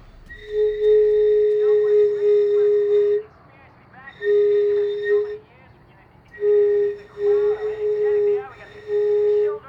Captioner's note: bottle whistling